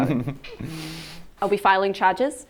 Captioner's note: laughs